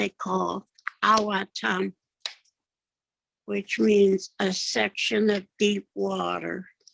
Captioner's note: speaking Yakama